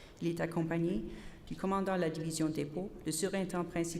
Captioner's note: repeated in French